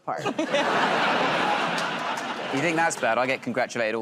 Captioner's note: laughter